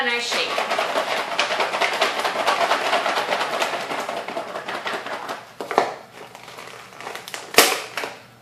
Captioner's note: shaking salad